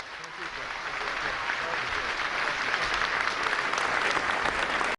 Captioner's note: applause